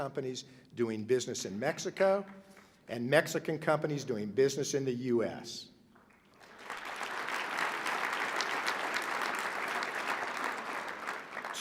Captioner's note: applause